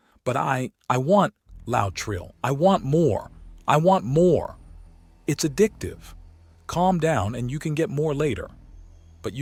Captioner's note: loud Trill